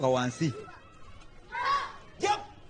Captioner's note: group grunts